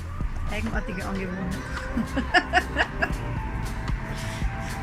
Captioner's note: laugh